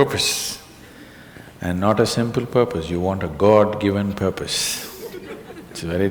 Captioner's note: laughter